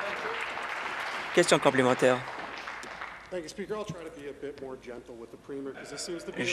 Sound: applause

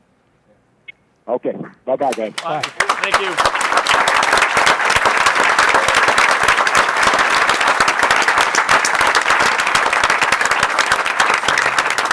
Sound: applause

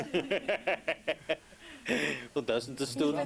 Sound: laughter

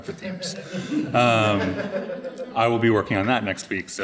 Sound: audience laughing

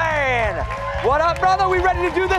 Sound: cheers

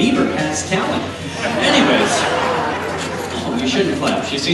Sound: audience laughs

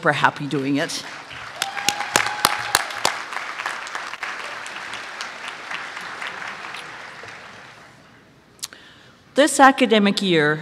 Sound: applause

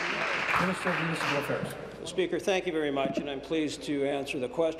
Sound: applause

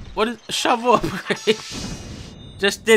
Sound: laughs

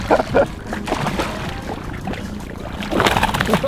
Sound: laughing; splashing

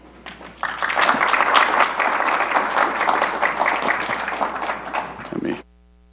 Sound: applause

